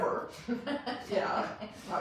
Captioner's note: laughs